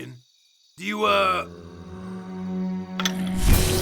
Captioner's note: zombie moans